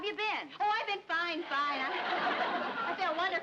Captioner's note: audience laughs